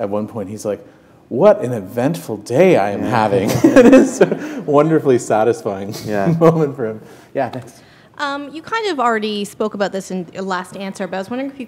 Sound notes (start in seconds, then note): 3.4 laughter